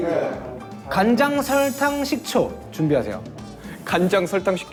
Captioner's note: Menjelaskan dengan tenang